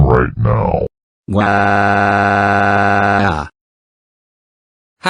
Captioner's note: dark bowser's crying